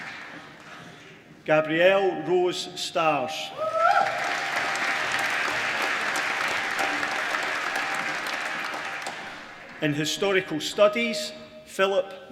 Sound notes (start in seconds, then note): 3.8 applause